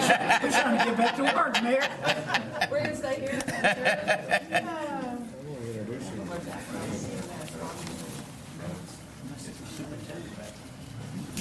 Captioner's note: laughter